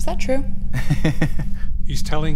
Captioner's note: laughs